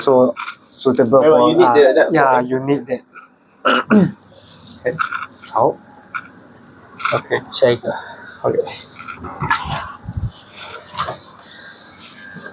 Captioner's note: clears throat